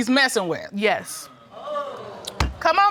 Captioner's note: audience gasps